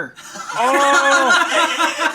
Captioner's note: laughing